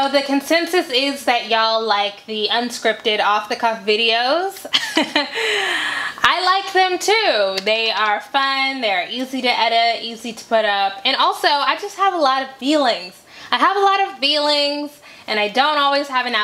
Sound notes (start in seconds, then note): 4.7 chuckles